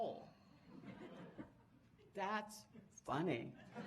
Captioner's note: audience laughing